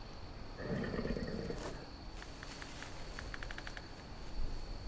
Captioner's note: werewolf breathing